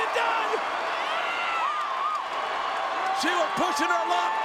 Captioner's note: crowd cheers